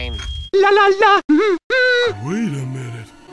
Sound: humming

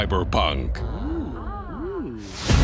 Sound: ooh...aah!

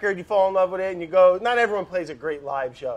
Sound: none

